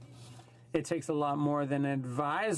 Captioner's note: speaking French